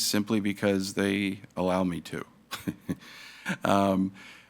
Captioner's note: laughs